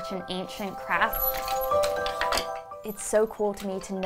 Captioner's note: parts rattle